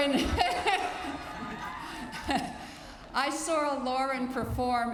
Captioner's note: laughter